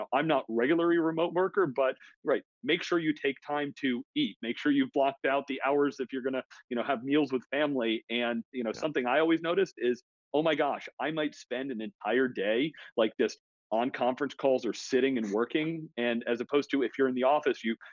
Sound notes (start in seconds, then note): 15.2 laughs